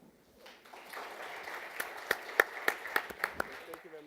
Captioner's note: applause